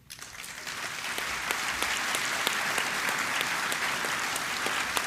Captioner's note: applause